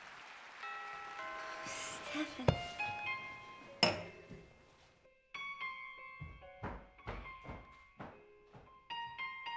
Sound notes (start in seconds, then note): 0.7 doorbell ringing; 5.8 soft instrumental music